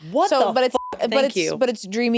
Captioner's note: beep